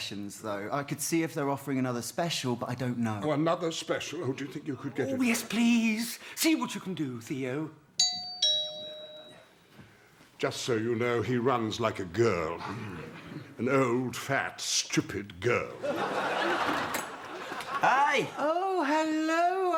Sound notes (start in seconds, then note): 8.0 doorbell